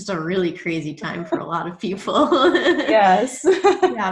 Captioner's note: laughs softly